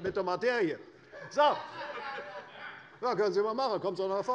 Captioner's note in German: Lachen